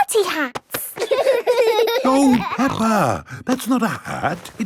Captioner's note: laughing